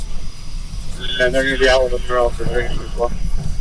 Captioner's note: radio chatter